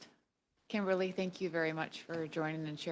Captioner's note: speaking French